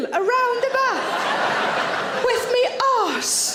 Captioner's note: audience laughs